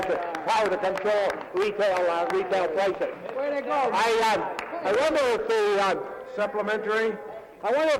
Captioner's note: some Applause